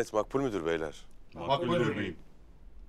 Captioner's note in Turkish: Hep bir ağızdan